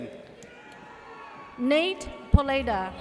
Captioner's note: audience cheers